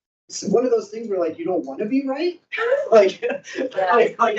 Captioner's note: laughs